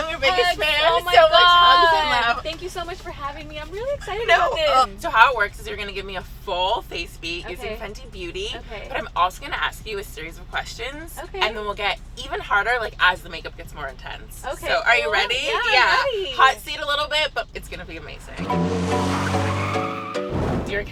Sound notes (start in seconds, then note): 19.0 cars screeching; 19.9 upbeat music